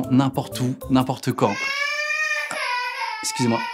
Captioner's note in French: pleurs bruyants de bébé